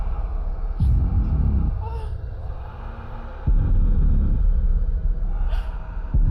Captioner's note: soft eerie music; monster rasping softly